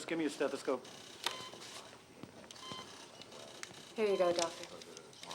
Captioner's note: machines beeping